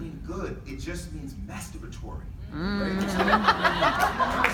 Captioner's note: lots of laughter/clapping